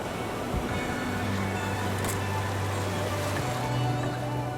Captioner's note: waves crashing